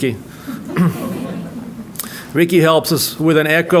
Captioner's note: audience laughing